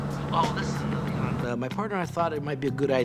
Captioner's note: on phone